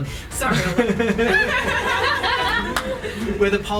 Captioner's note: all laugh